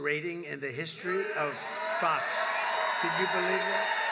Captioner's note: applause